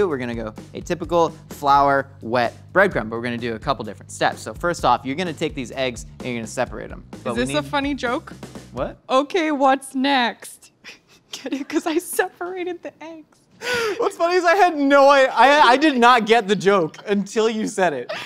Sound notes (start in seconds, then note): 13.7 laugh